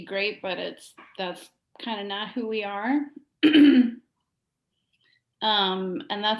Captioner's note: clears throat